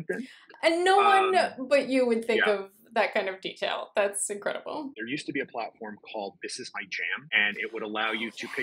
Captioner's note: breathlessly